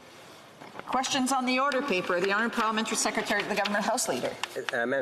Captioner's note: speaking French